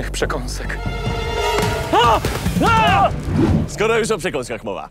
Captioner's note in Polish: okrzyk przestrachu